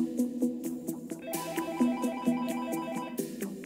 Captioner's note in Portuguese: Toque de celular